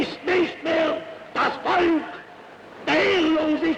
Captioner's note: hitler speaking german